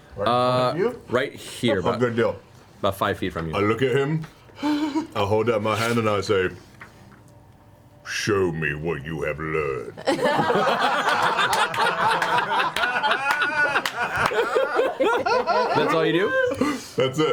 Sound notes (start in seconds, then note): 5.0 whimpers; 10.1 all laugh